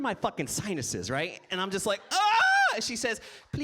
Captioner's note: squeals